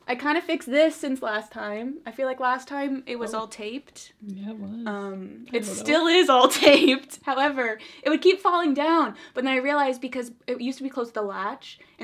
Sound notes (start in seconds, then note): 6.7 laughs